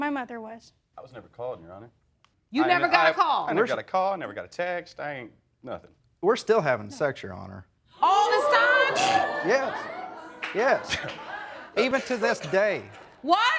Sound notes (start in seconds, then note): 8.4 audience gasps; 9.0 snorts